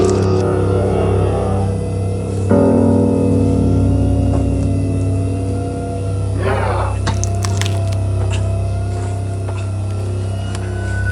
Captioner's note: Sasquatch snarls and grunts as it tears apart Dean corpse